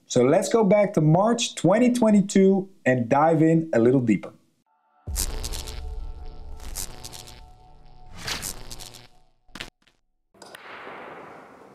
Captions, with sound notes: So let's go back to March, 2022 and dive in a little deeper. (dramatic music) (lightening cracking)